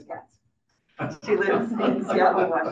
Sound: audience laughing

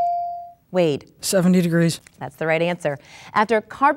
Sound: dinging

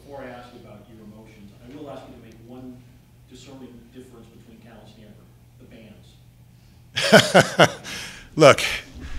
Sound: laughs

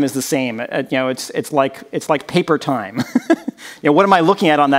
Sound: chuckles

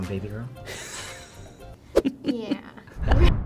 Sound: chuckles

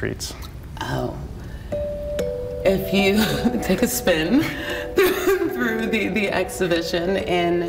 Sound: laughing

